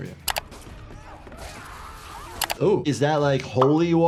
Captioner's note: group screams